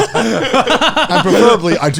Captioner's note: all laughing